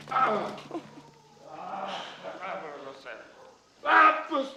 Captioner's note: speaking in illyrian language